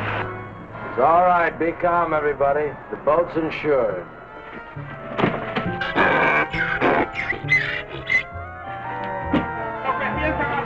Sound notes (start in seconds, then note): 6.2 Pete grunting; 9.9 men speaking in Spanish